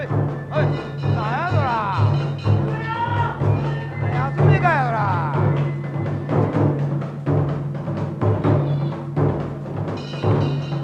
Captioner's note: cheering